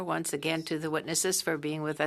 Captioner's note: speaking French